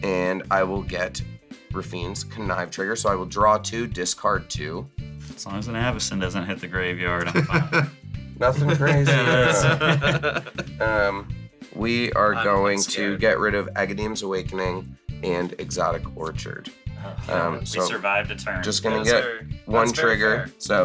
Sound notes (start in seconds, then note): 7.2 laughs; 8.5 laugh